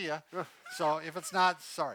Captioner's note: chuckles